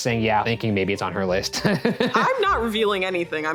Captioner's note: laughing